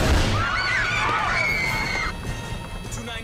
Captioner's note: screaming